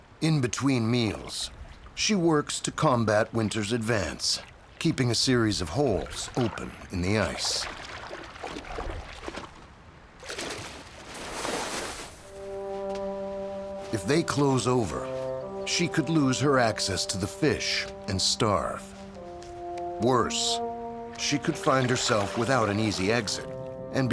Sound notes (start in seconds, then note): 7.8 snow rustling; 7.8 water splashing; 12.5 light music